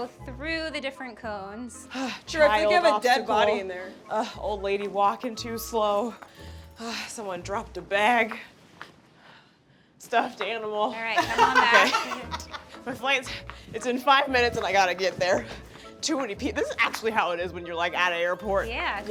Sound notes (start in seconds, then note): 11.2 laughs